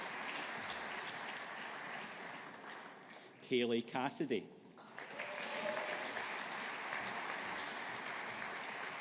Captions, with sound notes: Kayleigh Cassidy. (AUDIENCE APPLAUDING)